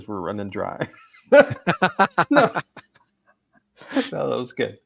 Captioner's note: laughing